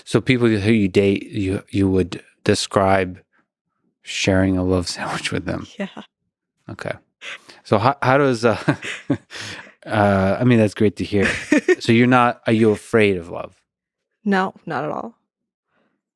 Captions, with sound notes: - So people who you date, you would describe sharing a love sandwich with them. - Yeah. (chuckles) - Okay. So how does, (both laughing) I mean, that's great to hear. So you're not, are you afraid of love? - No, not at all.